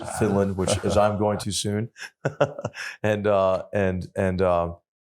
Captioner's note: laugh